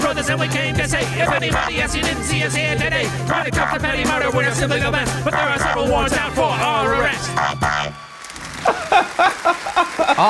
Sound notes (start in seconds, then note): 8.0 applause; 8.6 laughing